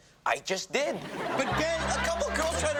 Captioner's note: audience laughs